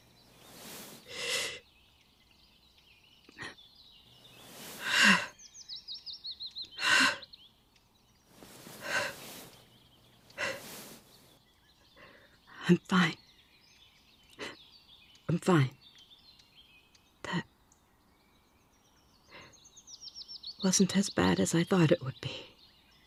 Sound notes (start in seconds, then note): 0.0 heavy breathing, rustling; 4.3 exhale; 8.3 rustling